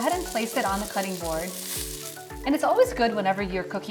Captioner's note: chicken sizzling